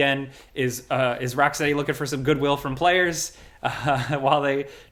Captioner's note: laughs